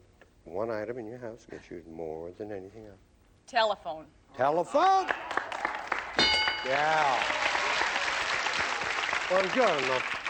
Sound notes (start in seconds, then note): 6.2 ding; 8.2 applause